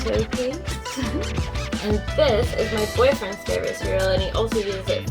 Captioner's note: giggles